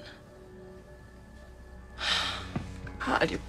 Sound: sighs

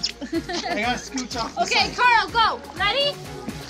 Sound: laughing

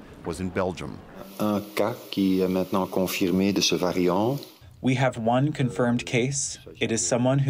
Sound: through translator

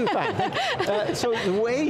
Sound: laughing

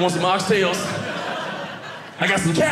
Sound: audience laughing

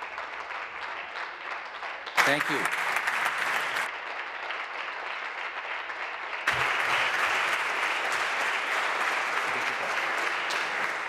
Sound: applause

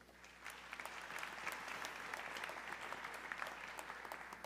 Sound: audience clapping

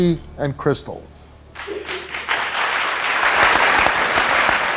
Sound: audience applauds

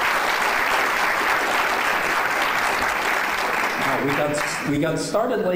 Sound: clapping

